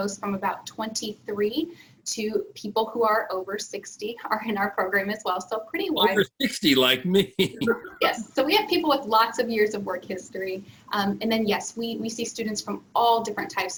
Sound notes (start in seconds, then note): 5.9 laughs